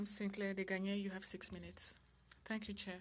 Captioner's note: speaking French